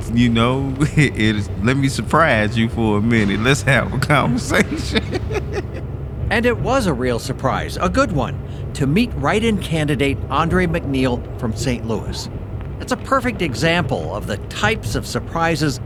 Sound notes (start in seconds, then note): 5.5 laughs